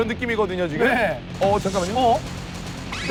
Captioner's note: shoot-out continues without a break